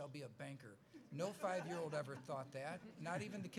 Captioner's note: laughs